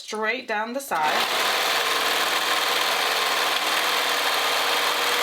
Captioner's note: sewing machine whirring